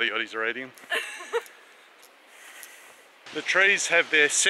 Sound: laughs

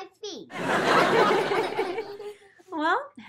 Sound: all laugh

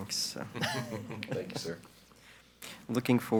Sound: all laugh faintly

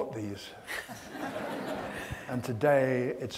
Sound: audience laughs

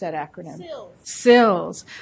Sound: voiceover

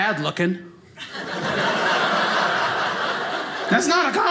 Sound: audience laughing

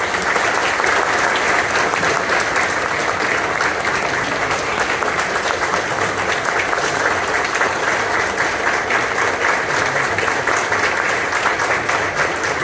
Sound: applause

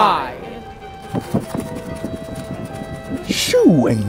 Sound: flapping and fluttering

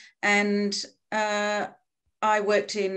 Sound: none

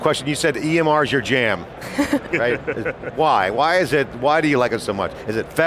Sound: laughing

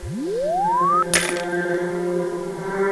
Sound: clank; eerie music

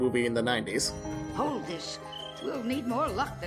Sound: cricket chirps

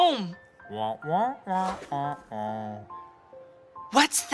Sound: murmuring

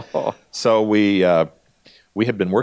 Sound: laughing

